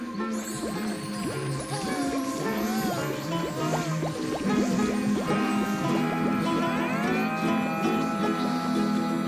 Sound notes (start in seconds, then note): 0.1 buzzing